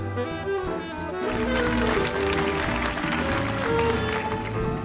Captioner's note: audience applauding